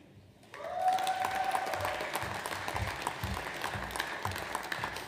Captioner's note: audience applauds